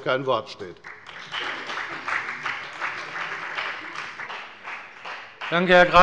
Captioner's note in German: Beifall bei der FDP und bei Abgeordneten der SPD